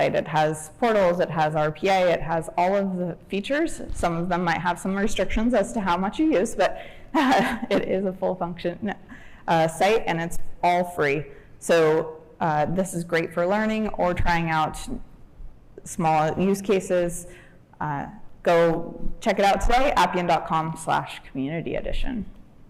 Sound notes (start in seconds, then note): 7.2 chuckles